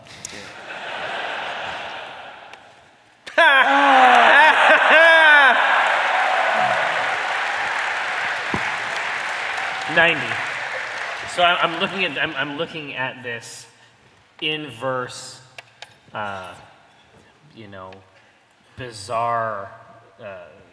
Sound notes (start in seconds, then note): 8.7 applause